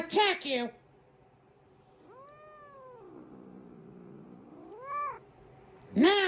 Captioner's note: Caprice continues growling